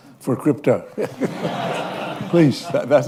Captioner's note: laughter